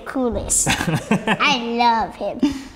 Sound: laughs

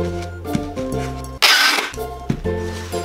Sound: christmas Music; tape Screech; christmas Music

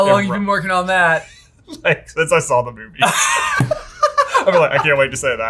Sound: laughs

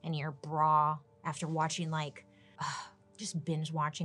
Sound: sighs

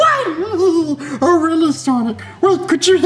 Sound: laughs

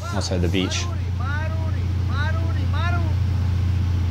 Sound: speaking foreign language

